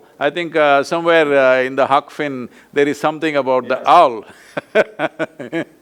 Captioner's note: laughs